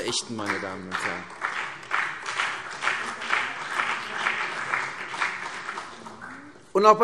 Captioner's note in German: Beifall CDU und BÜNDNIS 90/DIE GRÜNEN